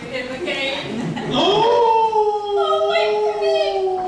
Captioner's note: wolf howls again